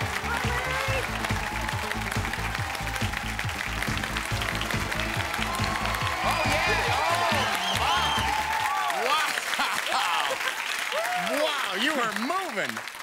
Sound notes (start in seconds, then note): 4.7 cheering; 9.6 chuckles